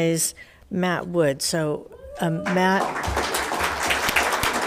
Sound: all applauding; audience cheering

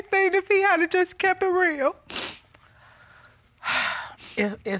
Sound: sniffles; sighs

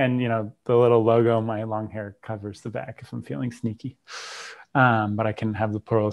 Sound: breath

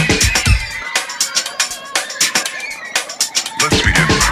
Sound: upbeat music; kids shouting happily

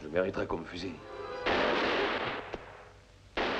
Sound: gunshot

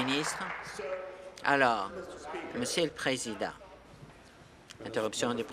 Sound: applause

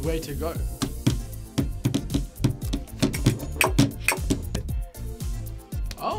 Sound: table tapping

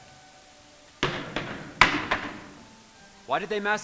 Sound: banging

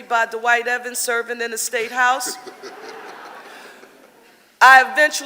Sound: audience laughing

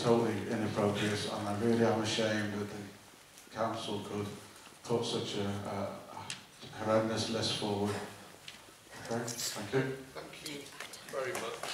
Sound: applause

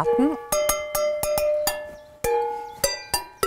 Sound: clattering chimes

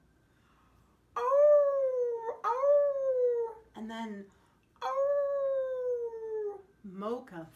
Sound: howling

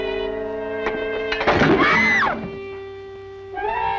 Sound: scream heard again

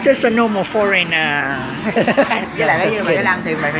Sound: laughing

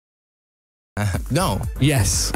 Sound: laughs

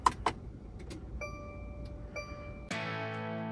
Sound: ignition clicking; dashboard dinging; relaxed music

